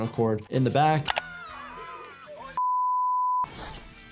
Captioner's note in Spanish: persona gritando